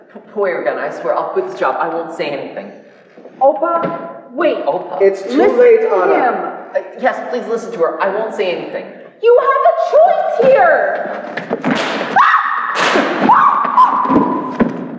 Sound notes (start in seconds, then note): 12.1 screams; 12.7 gunshot